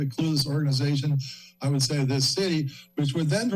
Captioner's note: inhales